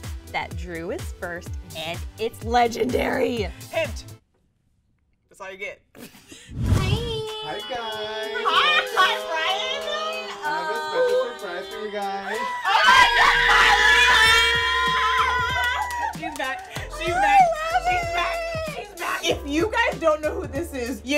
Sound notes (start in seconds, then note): 6.0 laughs; 12.2 the girls screams out of excitement